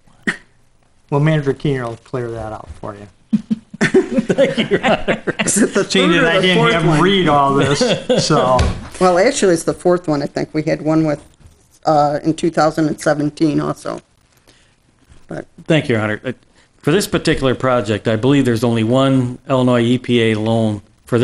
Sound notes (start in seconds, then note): 3.3 chuckling; 3.3 laughing